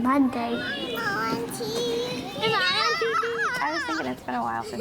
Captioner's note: collective chatter